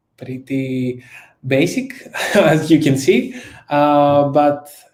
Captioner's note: laughs